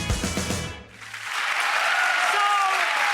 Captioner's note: applause